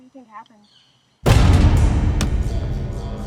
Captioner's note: door bangs open; tense music